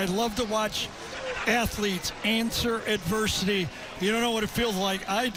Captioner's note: laughs